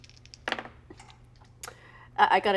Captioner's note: dice clatter